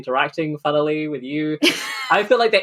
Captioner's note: laughs